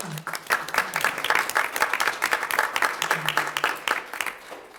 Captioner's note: audience applauds